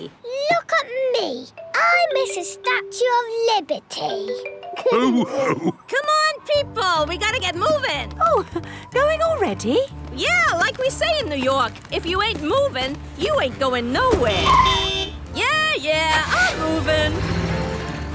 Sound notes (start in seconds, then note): 4.8 all laughing; 14.0 honking